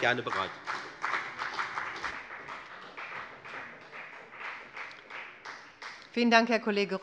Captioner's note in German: Beifall bei der FDP